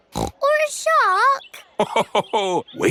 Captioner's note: snorts; laughs